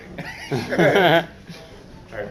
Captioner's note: laughter